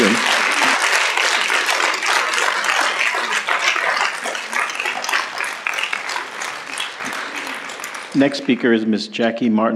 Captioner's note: applause